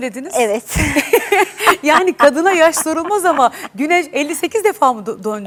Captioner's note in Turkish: kahkaha